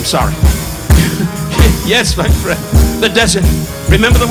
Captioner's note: Don chuckling